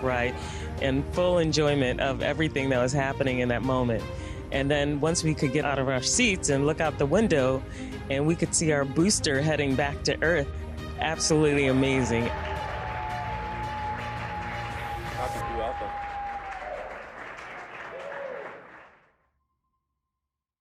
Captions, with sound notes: in full enjoyment of everything that was happening in that mome. And then once we could get out of our seats and look out tw and we could see our booster heading back to Earth ━ absolutely amazing. [cheering] [music fades]